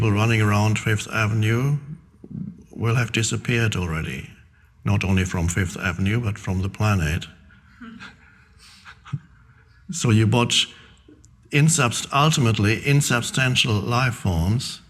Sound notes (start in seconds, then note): 7.6 Eckhart chuckling